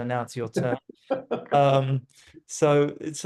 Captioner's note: laughing